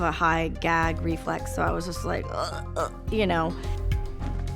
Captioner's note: gagging sounds